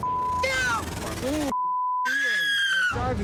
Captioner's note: woman screams